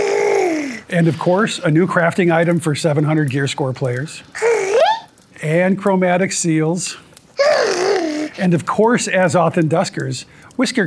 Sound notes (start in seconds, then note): 0.9 Whiskers grunts